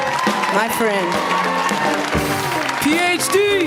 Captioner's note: applause